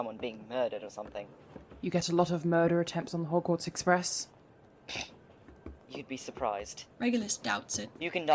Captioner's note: Lupin snorts